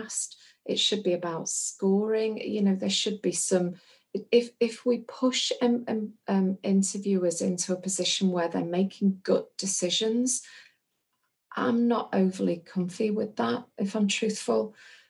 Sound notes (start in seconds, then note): none